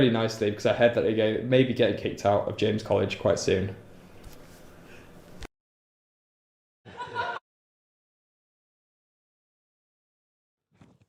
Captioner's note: audience laughing